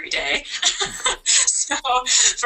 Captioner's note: laughter